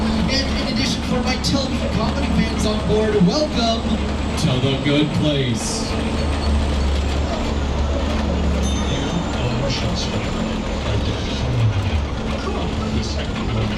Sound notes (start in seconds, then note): 8.6 bell dinging